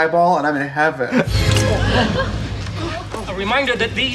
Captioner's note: dramatic music; people gasping